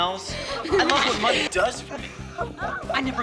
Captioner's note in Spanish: chicas riendo